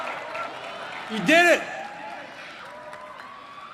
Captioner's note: applause